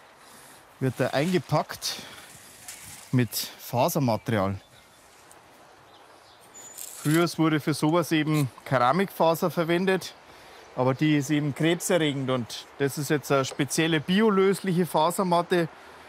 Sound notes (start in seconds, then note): 4.9 birds chirping